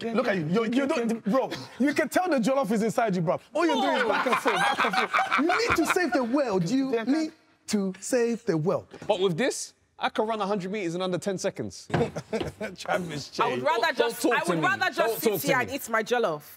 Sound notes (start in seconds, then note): 11.9 chuckles